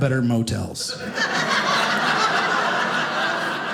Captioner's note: audience laughing